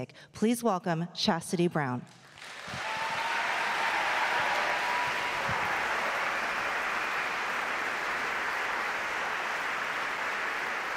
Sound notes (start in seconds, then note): 2.2 audience clapping; 2.4 audience cheering